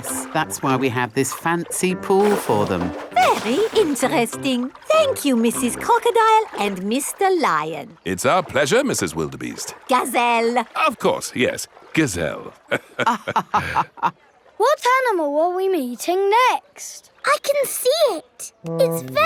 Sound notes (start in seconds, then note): 12.6 both laughing